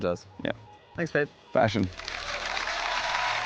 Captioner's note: cheering, applause